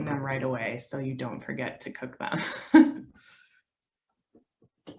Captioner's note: laughs